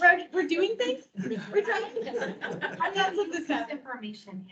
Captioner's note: members laughing